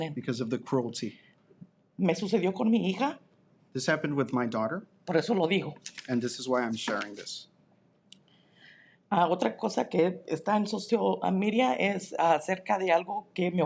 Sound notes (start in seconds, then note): 0.0 speaking in Spanish; 2.3 speaking in Spanish; 5.3 speaking in Spanish; 9.6 speaking in Spanish